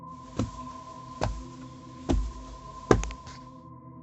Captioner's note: elephant clomping